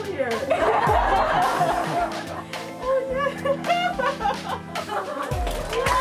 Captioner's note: happy laughter, clapping